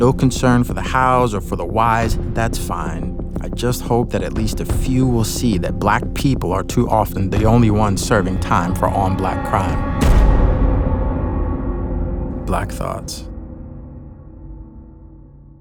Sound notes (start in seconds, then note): 10.0 gun shot